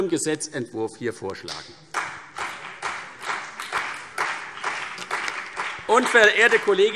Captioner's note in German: Beifall CDU und BÜNDNIS 90/DIE GRÜNEN